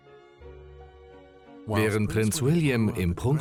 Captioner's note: voiceover